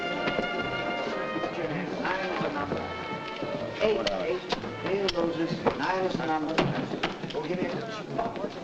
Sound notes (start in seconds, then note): 1.4 men chattering